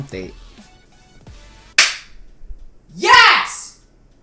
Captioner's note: screams YES and WOO!